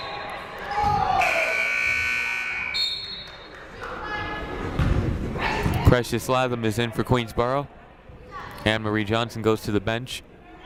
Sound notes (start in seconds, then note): 1.2 buzzer blares; 1.2 whistle blows